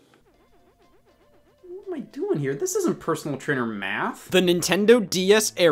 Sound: none

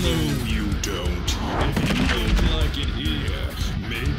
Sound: metal music; whoosh and thud

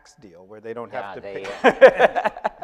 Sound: laughing

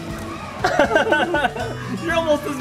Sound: laughter

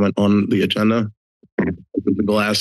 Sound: microphone tapping

